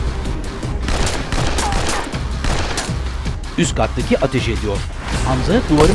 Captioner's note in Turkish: Silah sesleri